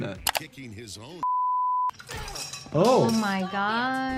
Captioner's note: beep